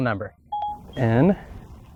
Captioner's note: Siri beeps